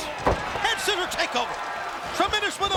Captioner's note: crowd cheering